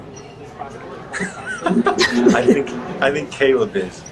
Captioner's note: laughter